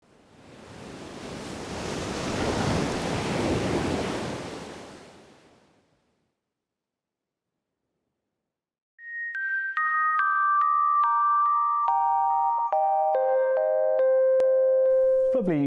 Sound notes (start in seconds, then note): 0.0 waves crashing; 9.0 soft pensive music